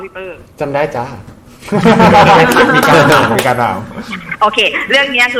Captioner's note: laughing